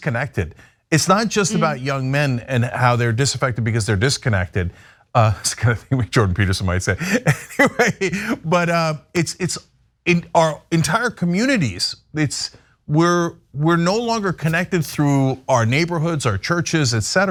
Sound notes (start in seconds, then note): 7.0 laugh